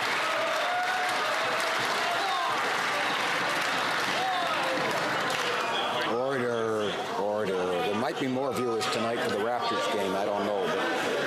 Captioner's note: some Applause